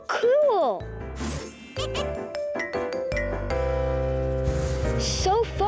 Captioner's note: laughing, blinking